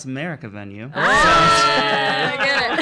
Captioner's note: cheers